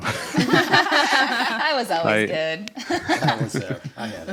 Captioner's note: and hosts laugh; laughs